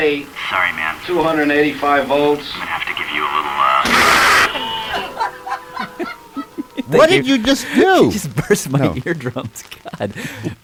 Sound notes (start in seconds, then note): 3.5 laughs; 9.5 laughs